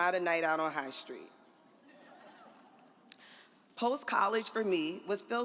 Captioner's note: audience laughs